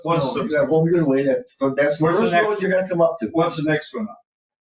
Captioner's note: people chattering